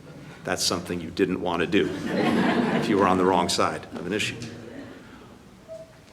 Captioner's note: laughter